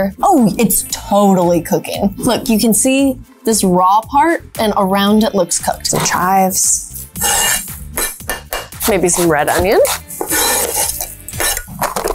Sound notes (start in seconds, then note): 7.0 knife scraping; 9.8 knife scraping; 11.3 lid popping